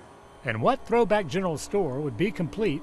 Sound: voiceover

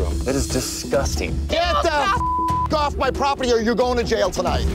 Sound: beeping

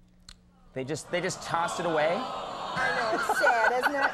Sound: audience groaning; Conan laughing

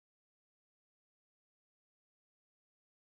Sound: none

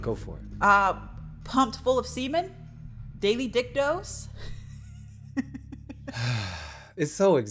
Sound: chuckles; sighs

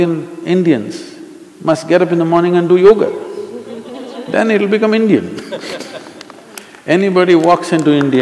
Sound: laughter

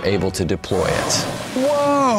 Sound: whale blasting water

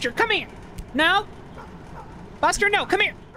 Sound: dog Barking In-Game

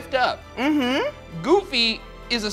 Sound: humming in agreement

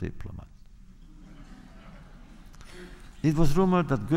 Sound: laughter

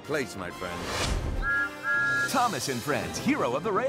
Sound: thomas whistles

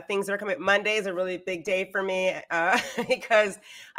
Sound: laughs

